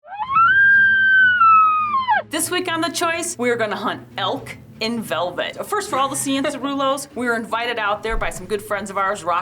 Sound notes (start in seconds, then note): 0.2 elk bugling